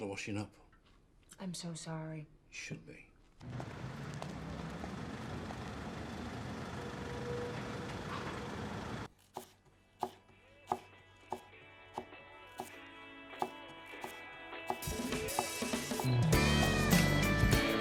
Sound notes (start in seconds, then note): 3.4 engine rumbling; 9.6 knife thudding; 9.6 upbeat music